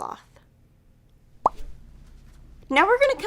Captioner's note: pop